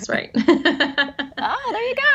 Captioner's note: laughs